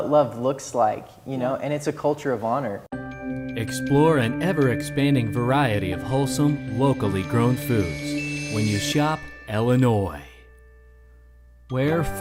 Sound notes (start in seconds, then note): 3.1 voiceover